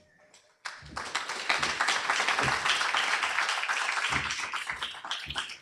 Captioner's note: applause